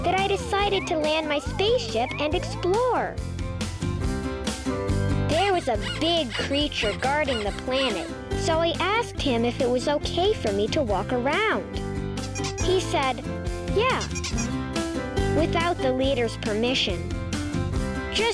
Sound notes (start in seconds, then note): 5.3 pig squeaking; 12.2 bunny squeaking